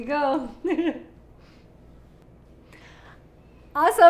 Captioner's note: chuckles